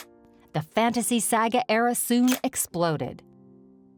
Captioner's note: camera snapping